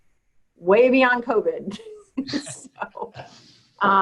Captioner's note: laughs